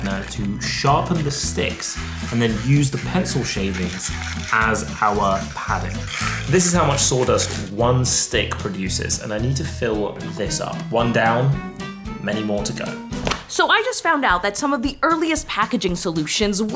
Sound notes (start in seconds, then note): none